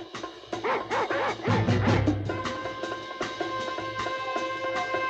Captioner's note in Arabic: نباح الكلاب